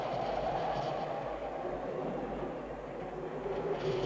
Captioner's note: wind howling